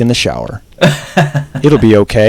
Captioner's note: laughs